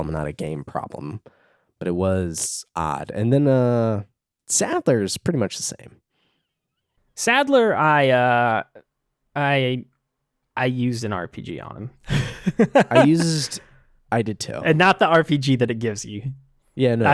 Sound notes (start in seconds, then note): 12.0 laughs